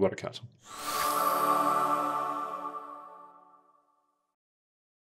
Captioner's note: ending chime sound